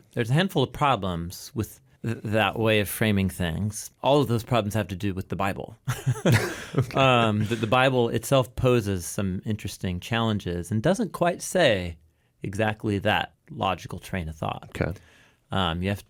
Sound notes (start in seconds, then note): 6.0 laughs